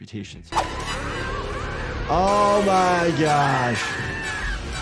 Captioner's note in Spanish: hombres gritando; música dramática